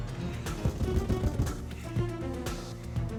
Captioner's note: tense music continues; fist pounding; tense music continues